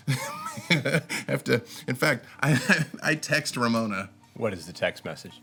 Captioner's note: chuckles